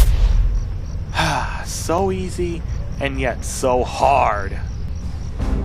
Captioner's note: sigh